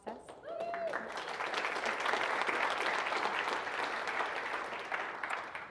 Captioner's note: audience applauding